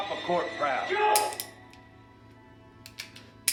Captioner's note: gun clicks